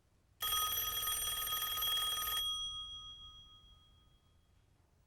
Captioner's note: rings